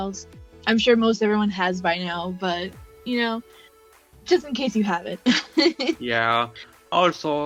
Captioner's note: laughs